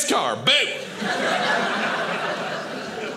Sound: audience laughing

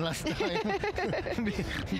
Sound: laughing

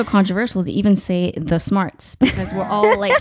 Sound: laughing

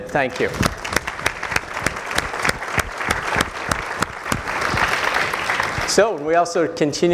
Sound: applause

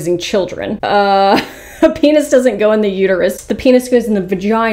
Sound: chuckles

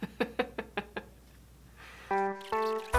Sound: laughs; elevator music

